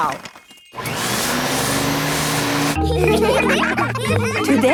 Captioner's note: whirring; all laughing